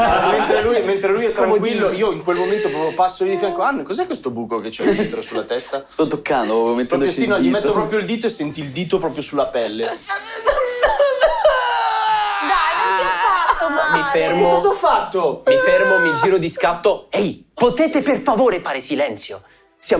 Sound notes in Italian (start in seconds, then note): 10.3 Scoppia a piangere